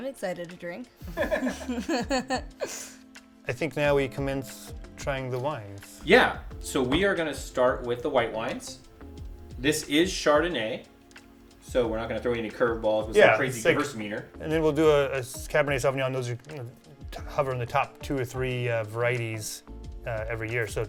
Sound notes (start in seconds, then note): 1.0 all laughing